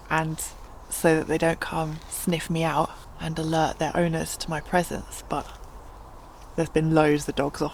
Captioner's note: none